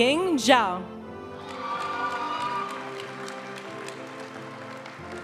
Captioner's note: audience cheering and applauding; graduation music